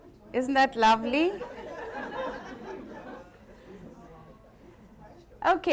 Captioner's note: laughs